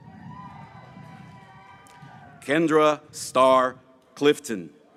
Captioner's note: graduates cheering